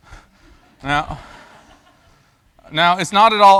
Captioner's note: laughter